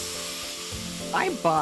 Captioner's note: plasma torch hissing